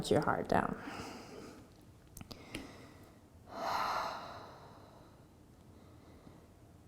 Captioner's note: exhaling and inhaling